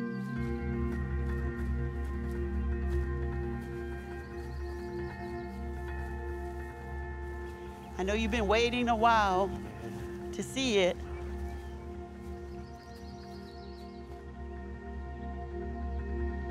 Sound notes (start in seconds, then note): 0.0 calm music; 0.2 bells ringing; 0.2 calm music; 4.9 bells ringing; 4.9 calm music; 11.4 bells ringing; 11.4 calm music; 16.3 bells ringing; 16.3 calm music